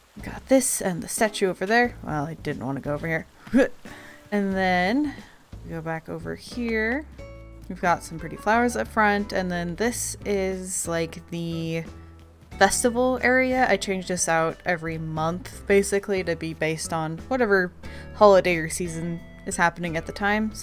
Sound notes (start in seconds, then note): none